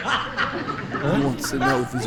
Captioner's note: audience Laughing